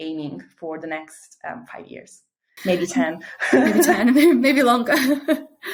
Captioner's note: chuckles